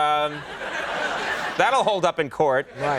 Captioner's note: audience laughing